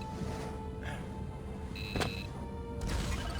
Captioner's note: beeping